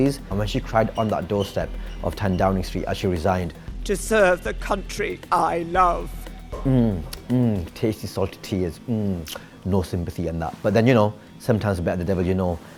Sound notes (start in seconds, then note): 5.4 voice breaks; 7.0 licks lips